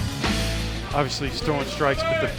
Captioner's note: voiceover